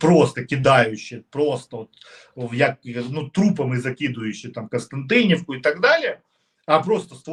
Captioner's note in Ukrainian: сопіння